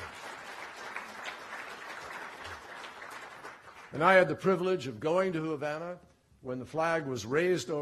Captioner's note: applause